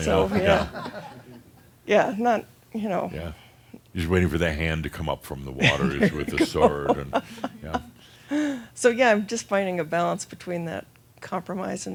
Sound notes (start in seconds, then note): 5.6 she laughs